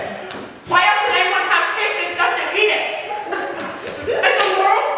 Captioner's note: audience laughs